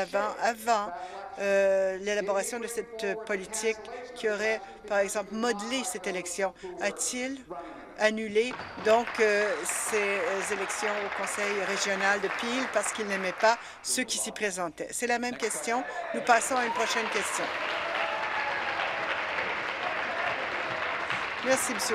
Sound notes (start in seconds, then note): 11.4 applause